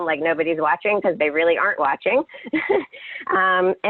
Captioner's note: laughs